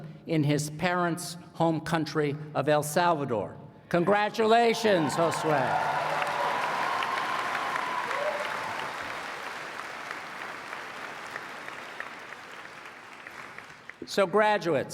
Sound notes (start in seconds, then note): 4.9 applause